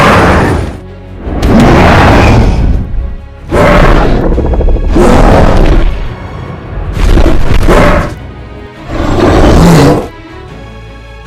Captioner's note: Godzilla and Kong Roaring loudly